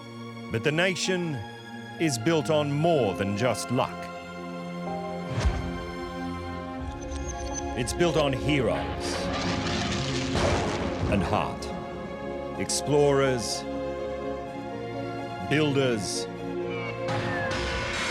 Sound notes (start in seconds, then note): 8.6 lighting bursts; 8.9 plane flying